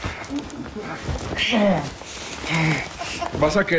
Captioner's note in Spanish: Exclamaciones